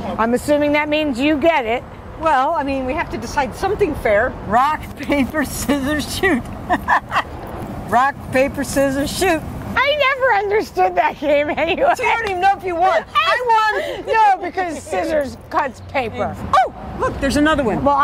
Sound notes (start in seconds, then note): 6.6 women laughing